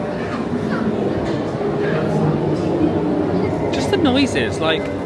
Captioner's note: train running